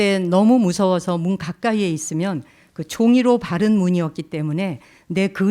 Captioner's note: speaking in Korean